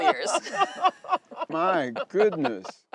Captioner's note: laughing